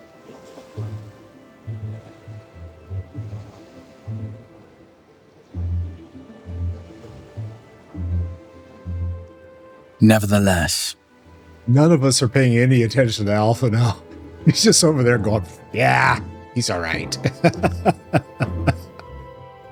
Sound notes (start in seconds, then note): 17.2 laugh